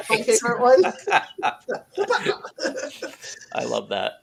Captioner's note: laughing